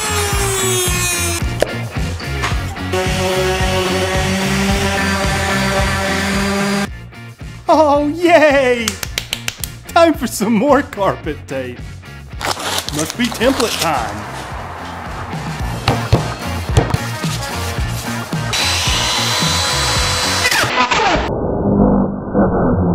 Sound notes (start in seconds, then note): 0.2 upbeat rock music; 4.7 tool whirring